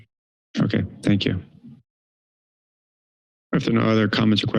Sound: silence

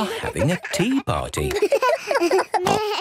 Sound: giggles, snorts

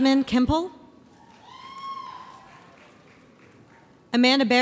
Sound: audience applauds

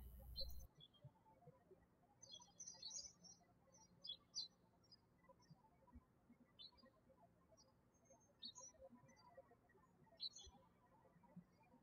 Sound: birds chirping

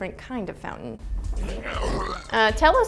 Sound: vomiting

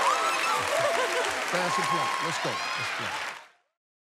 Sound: cheers and applause

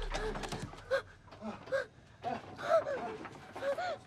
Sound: whimpering

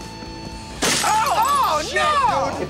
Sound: cries of surprise and dismay

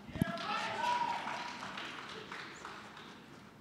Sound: cheering, applause

